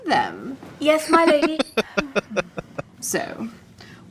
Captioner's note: laughing